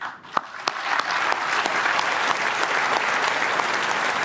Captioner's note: applause